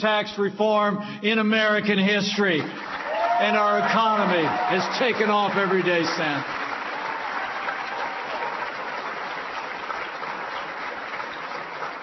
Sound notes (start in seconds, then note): 7.7 applause